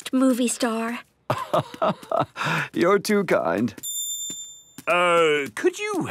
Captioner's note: laugh